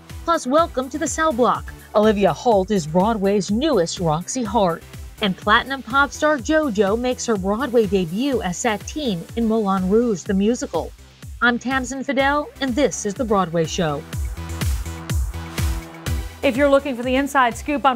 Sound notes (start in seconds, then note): none